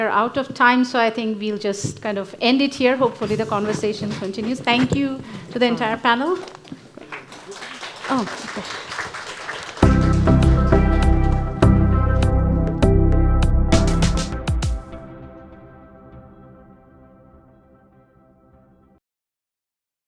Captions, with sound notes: We are out of time, so I think we will just end it here. Hopefully, the conversation continues. Thank you to the entire panel. (audience applauding) (gentle upbeat music)